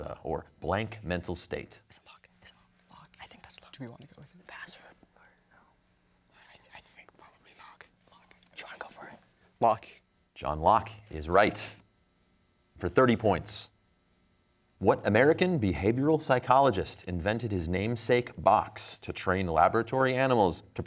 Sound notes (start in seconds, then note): 2.3 whispering; 6.3 all whispering